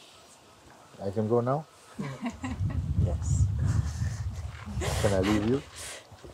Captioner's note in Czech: smích